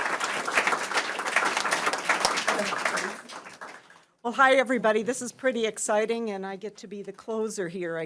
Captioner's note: applause